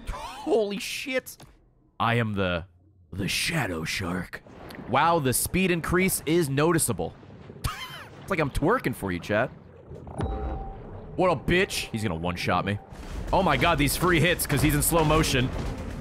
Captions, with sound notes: Holy shit. I am the shadow shark. Wow, the speed increase is noticeable. (laughs) It's like I'm twerking for you, chat. What up, bitch? He's gonna one shot me. Oh my God, these free hits because he's in slow motion.